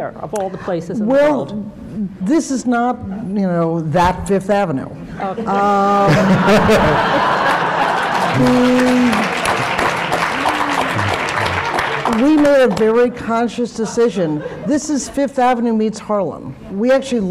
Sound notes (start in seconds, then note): 6.0 laughter/Applause